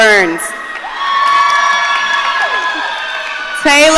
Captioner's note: audience cheering